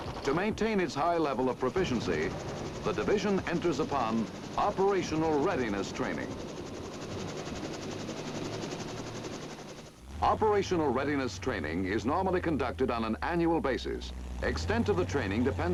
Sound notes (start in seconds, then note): 6.5 helicopter chopping